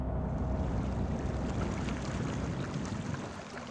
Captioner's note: water splashes